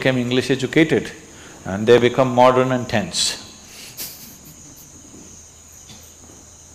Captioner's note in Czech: Smích